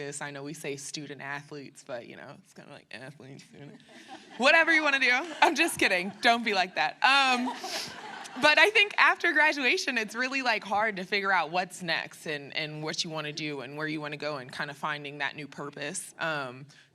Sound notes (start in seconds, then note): 7.2 laughter